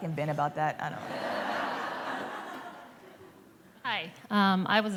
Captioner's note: laughter